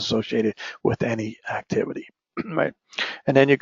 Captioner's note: cough